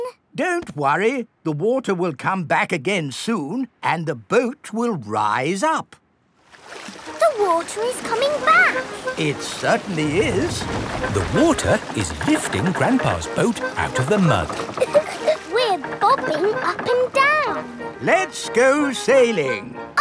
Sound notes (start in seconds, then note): 14.6 chuckles